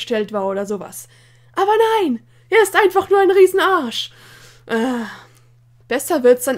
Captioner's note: annoyed sigh